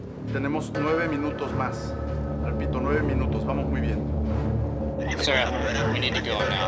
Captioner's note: man speaking in foreign language